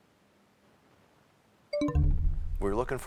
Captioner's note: bell chimes, time expires